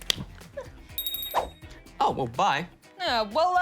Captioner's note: bell rings